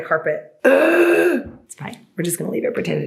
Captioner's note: groaning